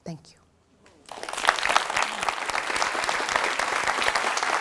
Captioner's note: audience applauding